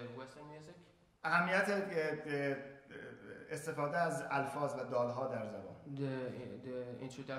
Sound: speaking in farsi

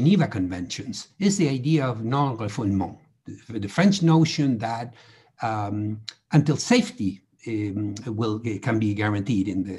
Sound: french

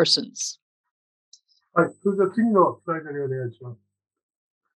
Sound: speaking japanese

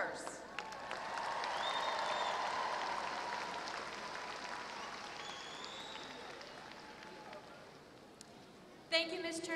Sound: applause

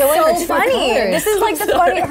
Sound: laughs

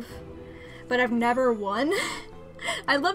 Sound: giggles

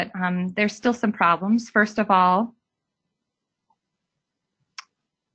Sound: silence

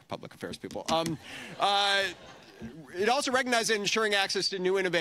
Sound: laughing

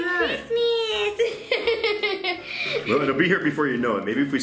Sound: laughs

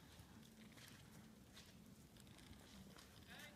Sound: snow crunching

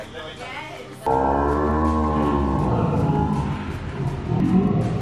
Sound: slo-mo sound effect

